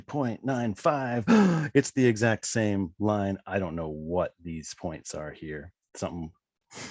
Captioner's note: gasp!